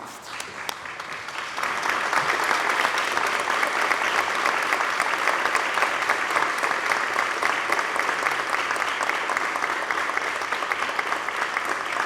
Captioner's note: applause